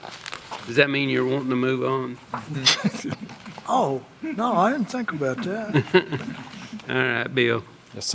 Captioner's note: laughter